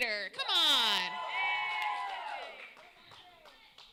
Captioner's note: cheering